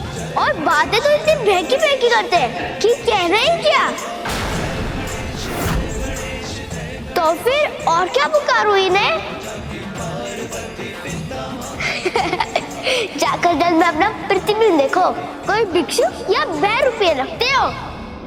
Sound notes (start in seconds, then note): 11.8 laughs